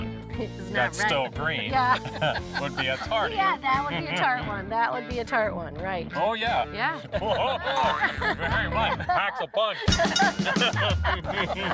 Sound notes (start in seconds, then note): 1.8 laughs; 7.0 laughs; 9.4 laughing